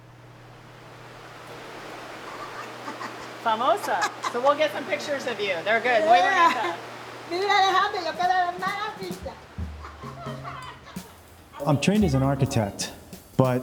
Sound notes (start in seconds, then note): 1.9 worker laughing; 7.6 work speaking in foreign language; 10.4 percussion music